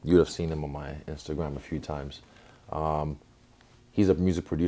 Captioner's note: none